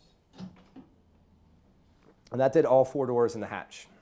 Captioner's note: doors clicking